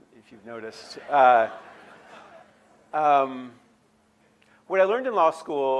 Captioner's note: audience laughing